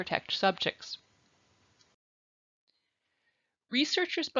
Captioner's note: silence